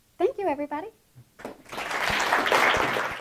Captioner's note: applause